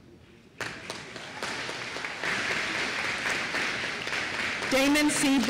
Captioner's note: applause